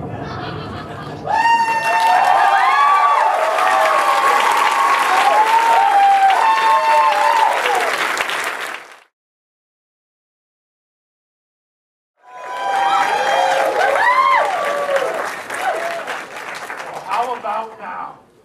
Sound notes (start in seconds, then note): 1.3 audience laughter and applause; 12.2 audience applause